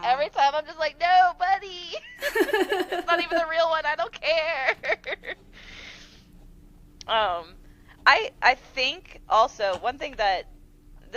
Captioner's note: laughter